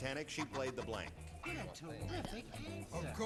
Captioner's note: panel muttering